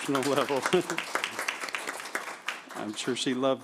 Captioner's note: applause